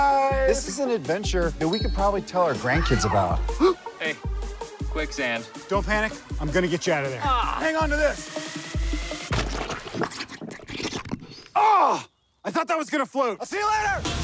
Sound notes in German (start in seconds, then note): 3.4 gasping; 9.3 sloshing, gurgling